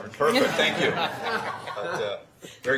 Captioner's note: laughing